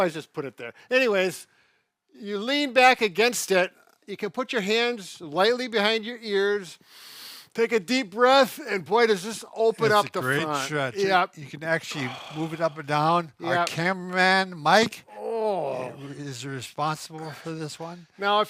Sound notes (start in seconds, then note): 6.8 inhales